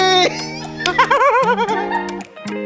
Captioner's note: laughs